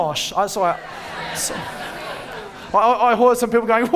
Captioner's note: audience ground chattering